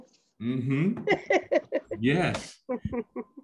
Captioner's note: laughs